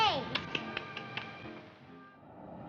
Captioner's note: tsk-tsks; airplane whirring